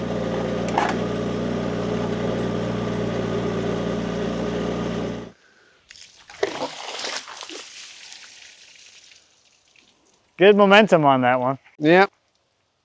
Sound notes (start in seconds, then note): 0.0 engine rumbling; 5.9 water splashing